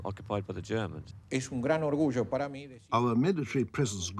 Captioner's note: man speaking in foreign language